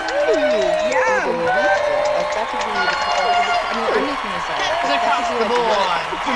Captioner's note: cheers, applause, chatter